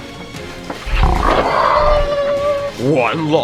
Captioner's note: tiger growls; panicked whimpering